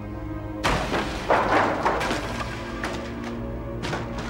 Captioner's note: object clattering; soft tense orchestral music